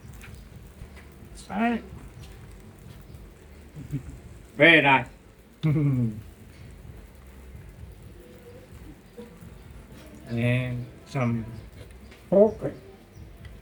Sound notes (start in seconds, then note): 3.7 laughing